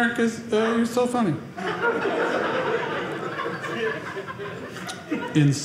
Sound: audience laughing

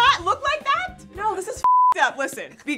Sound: beep

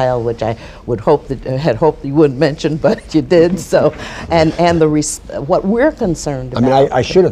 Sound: laughter

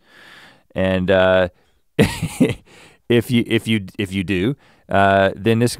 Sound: chuckles

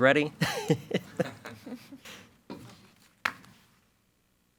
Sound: board members chuckle

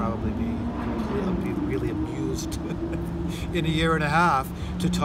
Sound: laughs

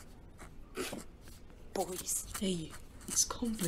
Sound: Marlene snorts

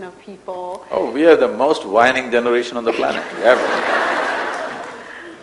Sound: laughter

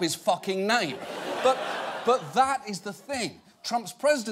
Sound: audience laughing

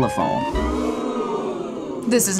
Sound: crowd

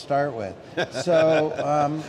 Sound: laughing

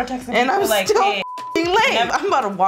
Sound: beep

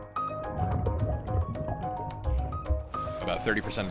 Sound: water gurgling

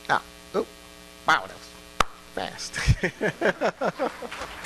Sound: laughing; applause

